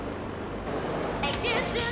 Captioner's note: sirens wailing